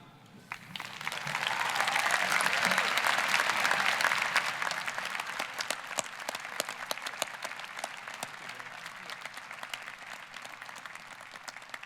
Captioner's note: applause